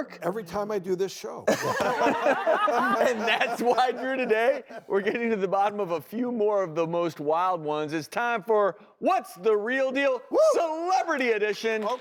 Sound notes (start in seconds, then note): 1.5 laughs